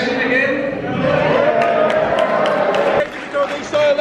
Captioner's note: cheering